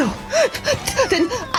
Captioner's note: gasp; hyperventilating